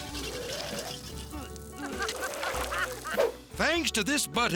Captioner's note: person gagging; worker laughing